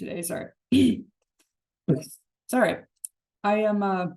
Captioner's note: clears throat